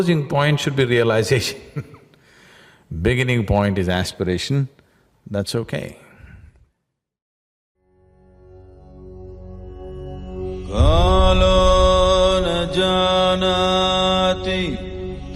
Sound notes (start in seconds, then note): 1.9 laughs